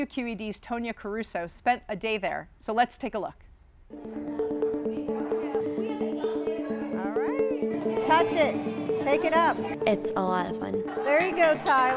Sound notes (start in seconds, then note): 3.9 twinkly music; 4.6 children chatter